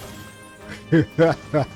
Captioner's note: laughs